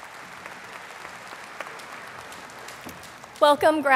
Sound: audience applauding

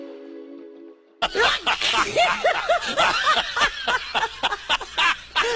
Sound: monkeys laughing

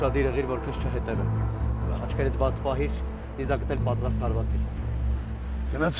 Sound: Gevork speaking in foreign language

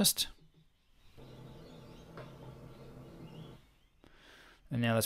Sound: air conditioner humming

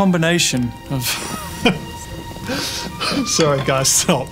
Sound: laughing

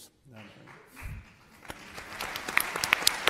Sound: applauds

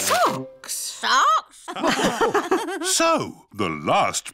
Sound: all laugh

